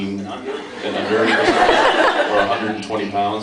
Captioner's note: laughs